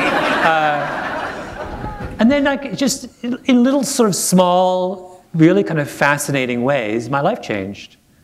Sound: laughter

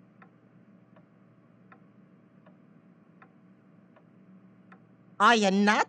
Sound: clock ticking

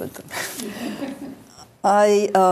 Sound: laughs

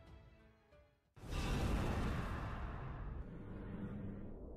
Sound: whoosh

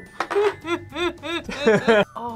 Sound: laughs; whimpers

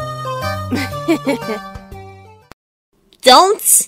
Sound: mischievous giggling

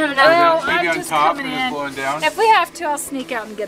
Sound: dad mumbles

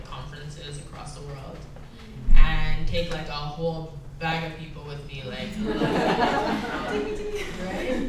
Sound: laughs

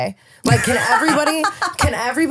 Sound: laughing

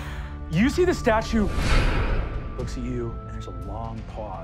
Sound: wooshing

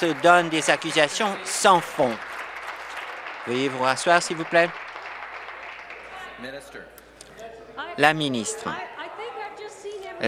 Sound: applause

